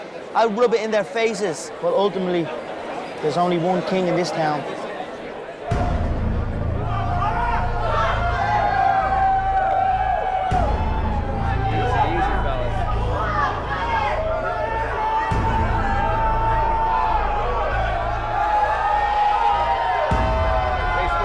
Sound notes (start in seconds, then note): 5.6 dramatic music; 13.7 crowd yelling